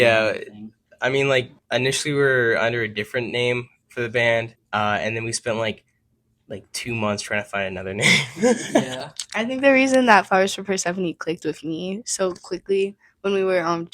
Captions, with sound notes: yeah, I mean like, initially we were under a different name for the band. And then we spent like 2 months trying to find another name (laughs). yeah. I think the reason that flowersforpersephone clicked with me so quickly when we were,